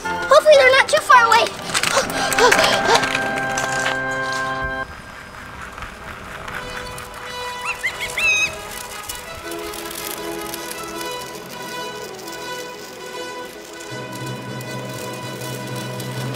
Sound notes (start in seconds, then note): 1.5 assistant breathing heavily; 6.7 bombastic music